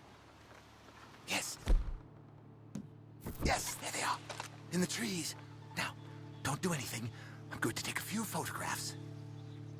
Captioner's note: whispers